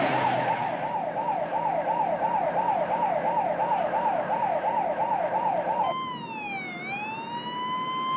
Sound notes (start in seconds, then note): 2.4 Ambulans Siren Ağlama